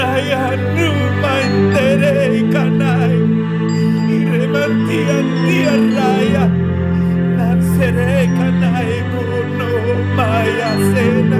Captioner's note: gimiendo y hablando en lenguas espirituales; weeping /speaking in spiritual language